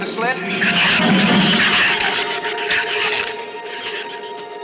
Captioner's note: shrews screech